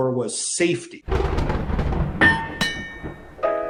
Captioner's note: thunder rumbling; metal clanking; vintage jazz music